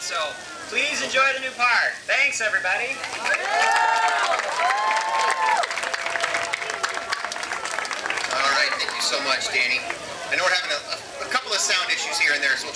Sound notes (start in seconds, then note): 3.2 crowd cheering